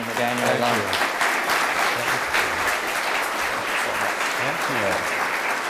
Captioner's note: audience applauds